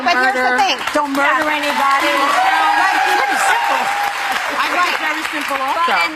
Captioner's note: audience applauding